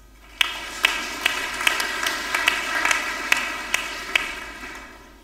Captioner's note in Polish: oklaski